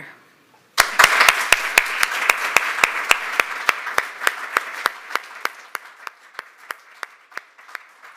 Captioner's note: applause